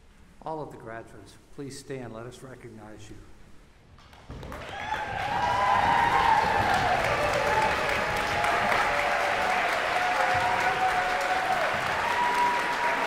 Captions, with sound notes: All of the graduates, please stand and let us recognize you. [APPLAUSE AND CHEERING]